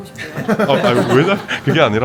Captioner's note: chuckles